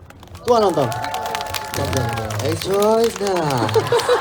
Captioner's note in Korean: 웃음